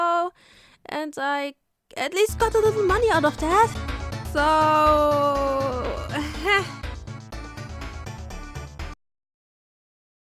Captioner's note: awkward laughter